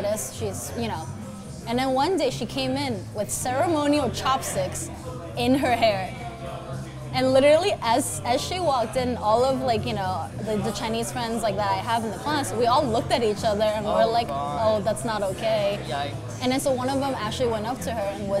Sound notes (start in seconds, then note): none